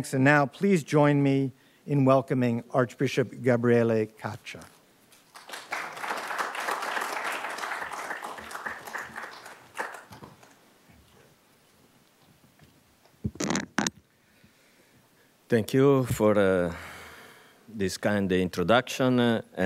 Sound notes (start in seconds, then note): 5.3 audience applauding